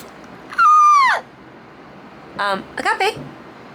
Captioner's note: shrieking